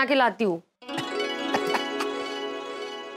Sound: laughs

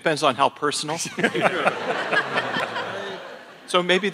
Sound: attendees laughing

